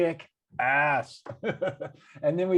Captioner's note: laughing